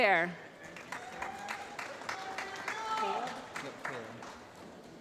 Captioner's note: applause